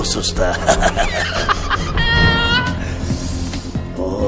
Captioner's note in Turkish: Kahkaha atar